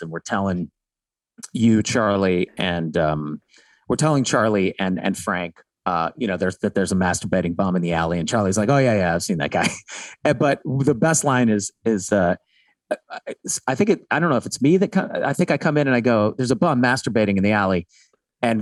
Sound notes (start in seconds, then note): 9.4 Glenn laughing nostalgically